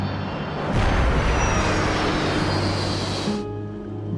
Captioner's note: loud banging; calm music